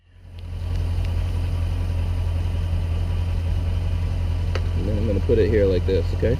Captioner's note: engine running